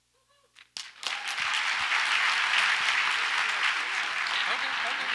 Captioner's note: audience applauds